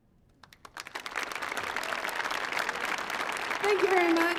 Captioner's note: audience applauding